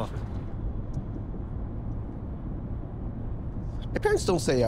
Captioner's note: vehicle motor humming